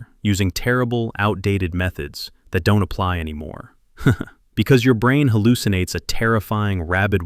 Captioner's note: laughs